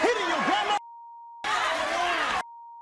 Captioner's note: audience cheers; beeps